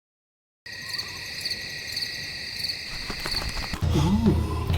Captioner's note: crickets chirping